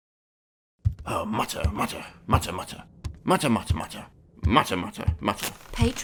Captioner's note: footsteps